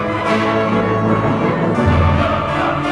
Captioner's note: none